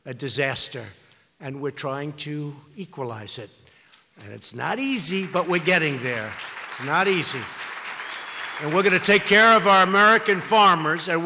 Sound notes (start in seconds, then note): 7.4 applause